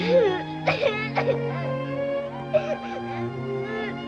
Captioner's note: solemn instrumental music; Jessica sobs